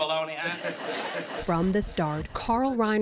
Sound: laughter

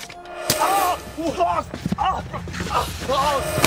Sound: screaming in pain

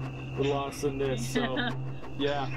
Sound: laughter

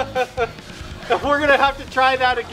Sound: laughing

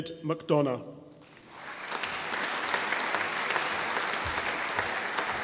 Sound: audience applauding

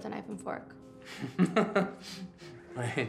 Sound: chuckling

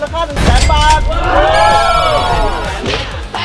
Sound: cheering

